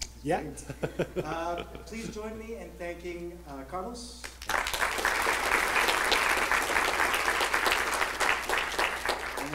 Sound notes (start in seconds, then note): 0.6 laughing; 2.0 voiceover; 4.3 applauding